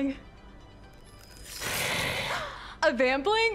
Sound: snarls

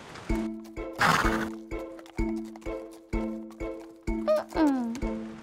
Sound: bouncy music; horse snorting

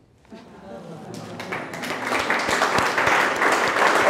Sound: audience applauding

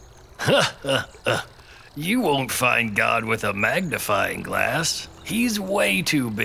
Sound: chuckles

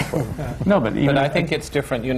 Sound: laughter

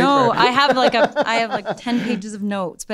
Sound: laughs

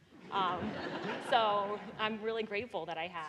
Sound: audience laughing

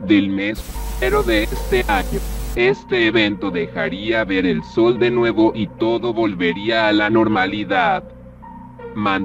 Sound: interference

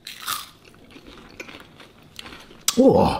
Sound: chips crunching

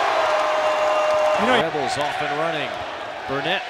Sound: crowd cheering

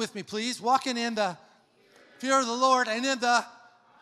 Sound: crowd

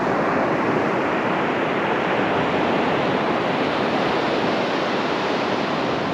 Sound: waves splashing against the shore

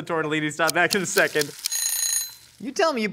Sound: timer Ringing

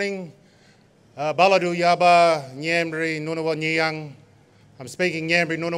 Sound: non-english speech

